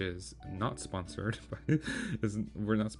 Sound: laugh

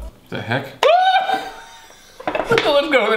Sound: screeches

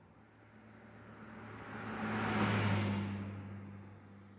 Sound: car zooming

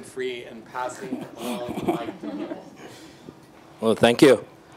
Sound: group laughing

